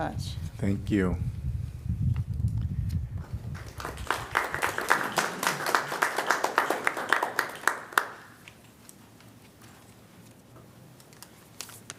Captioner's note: applause